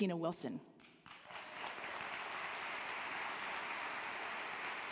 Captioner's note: audience applauding